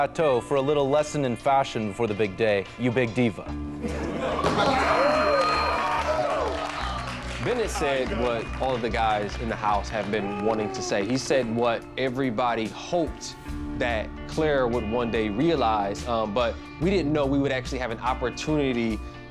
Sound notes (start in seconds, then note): 3.8 laughter and cheering